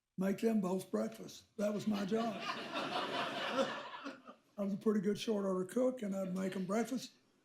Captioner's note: laughter